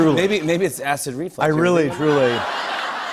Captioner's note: laughter